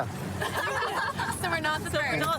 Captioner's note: laughter